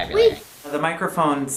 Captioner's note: television static noise